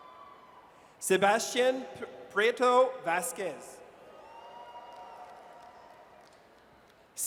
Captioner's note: audience cheers; audience cheers